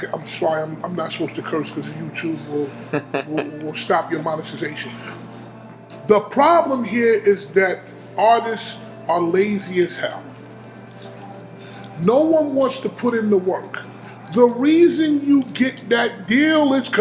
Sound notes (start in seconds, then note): 2.8 interviewer laughing